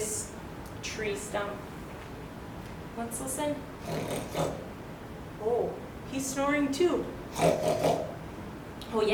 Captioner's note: snoring noise